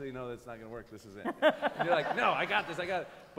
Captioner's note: laughter